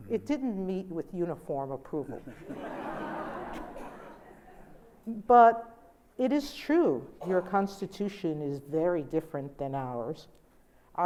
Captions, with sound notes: It didn't meet with uniform approval. (audience laughs) But, it is true. Your constitution is very different than ours.